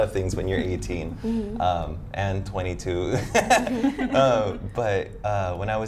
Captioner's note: laughs